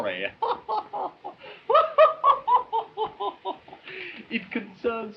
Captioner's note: laughing